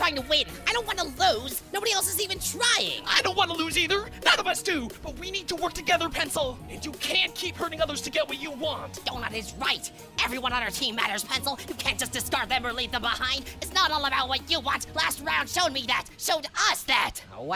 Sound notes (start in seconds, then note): none